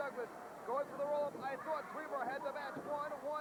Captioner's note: crowd chatter